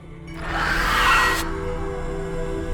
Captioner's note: screams